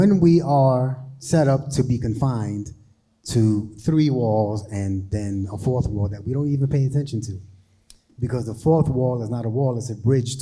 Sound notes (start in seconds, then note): none